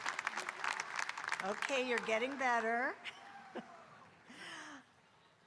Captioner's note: laughs